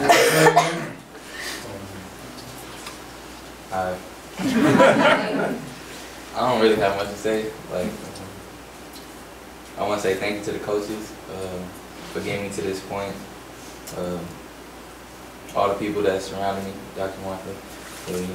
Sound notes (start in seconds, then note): 4.4 group laughs